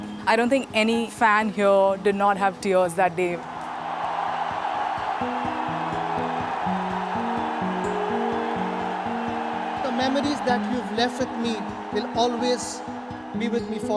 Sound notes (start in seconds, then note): 3.8 cheering